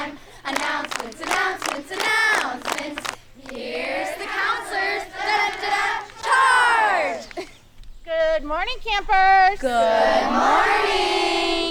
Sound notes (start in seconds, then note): 7.2 chuckles